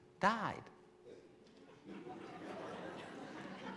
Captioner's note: laughing